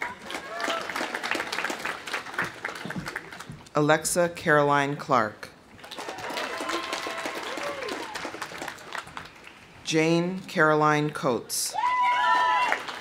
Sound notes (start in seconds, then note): 0.0 audience cheering; 0.0 audience applauding; 5.8 audience applauding; 5.8 audience cheering; 11.7 audience cheering